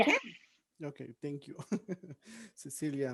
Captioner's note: chuckles